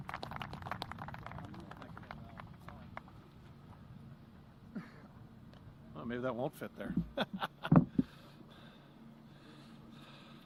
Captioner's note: applause